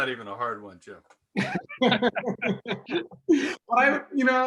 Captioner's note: laughter